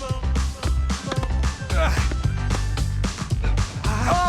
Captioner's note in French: grognements